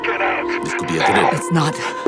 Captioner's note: the base alarm sounds